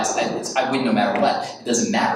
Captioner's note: snaps fingers